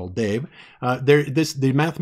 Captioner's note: stutter